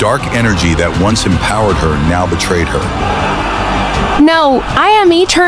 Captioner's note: desperate, fading